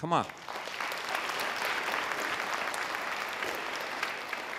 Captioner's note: audience applause